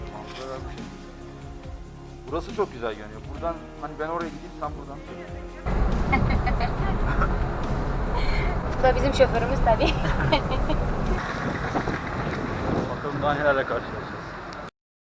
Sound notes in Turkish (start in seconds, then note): 6.0 Gülüyorlar